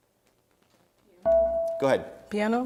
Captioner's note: dinging